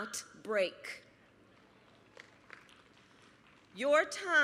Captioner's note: applause